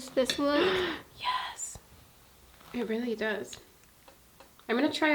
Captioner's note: gasps